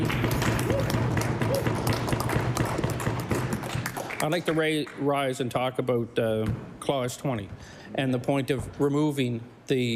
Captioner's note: applause